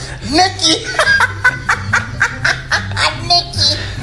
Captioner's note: laughs with a high pitch